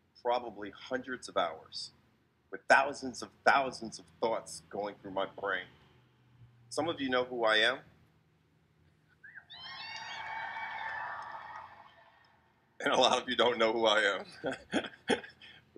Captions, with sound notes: probably hundreds of hours, with thousands of thousands of thoughts going through my brain. Some of you know who I am. (crowd cheers) And a lot of you don't know who I am, (laughs)